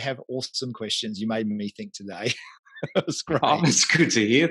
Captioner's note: laughs